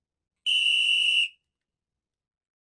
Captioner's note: whistle blowing